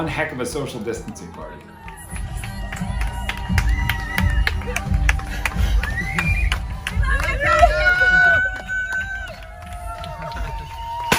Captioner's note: cheering, music